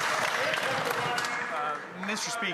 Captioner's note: some Applause